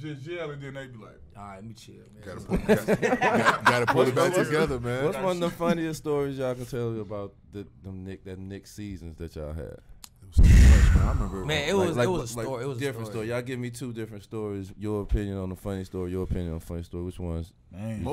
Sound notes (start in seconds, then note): 2.5 laughing